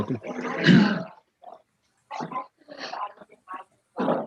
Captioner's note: speaking faintly